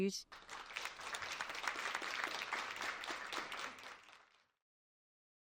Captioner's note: attendees applauding